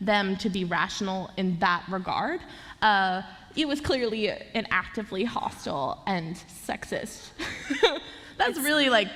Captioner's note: laughter